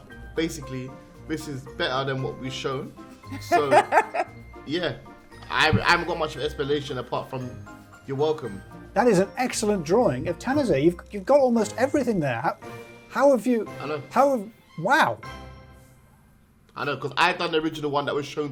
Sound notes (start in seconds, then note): 3.2 laughing; 15.4 dramatic upbeat music